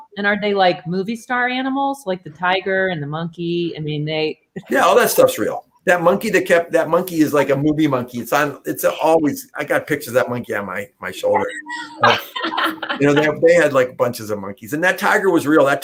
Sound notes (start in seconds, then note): 4.1 laughter; 12.0 laughter